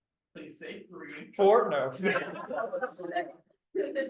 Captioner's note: laughter